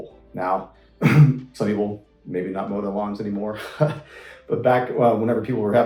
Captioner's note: laughs